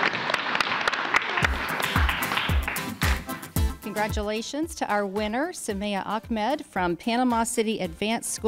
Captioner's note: applause